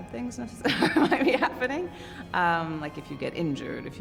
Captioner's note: chuckles